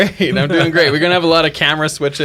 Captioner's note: laughs